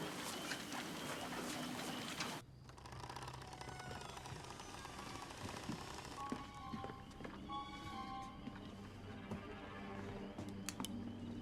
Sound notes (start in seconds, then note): 2.5 door creaks